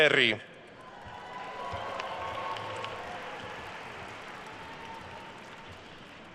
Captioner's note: attendees cheering and applauding